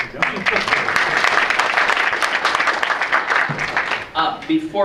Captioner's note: audience applauds